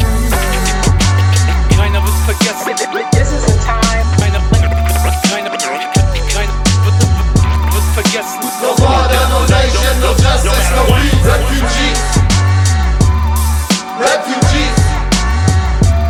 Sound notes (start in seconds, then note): 2.8 scratches